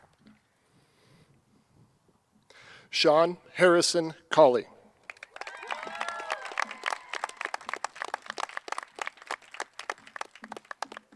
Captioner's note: cheers and applause